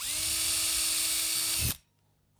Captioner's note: whirring